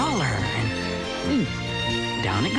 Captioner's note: gulp